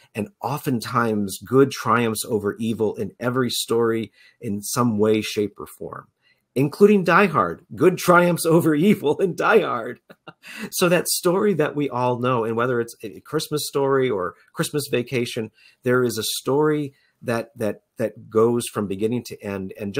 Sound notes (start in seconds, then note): 9.7 chuckles